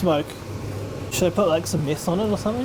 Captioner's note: extractor fan whirring in the background